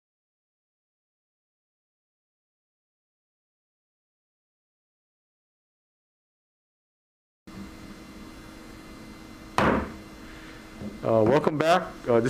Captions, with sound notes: (gavel pounds) Welcome back.